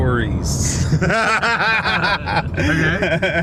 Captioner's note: laughs